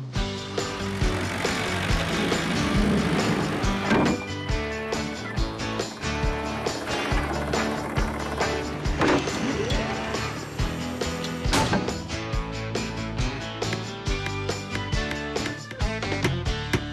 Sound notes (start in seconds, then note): 0.8 upbeat Music; 3.8 clank!; 8.9 clank!; 11.2 clank!; 13.9 hammer Tapping